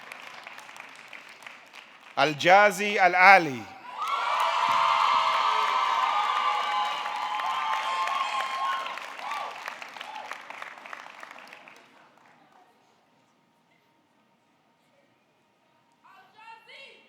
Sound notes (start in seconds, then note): 4.0 audience clapping; 4.3 audience cheering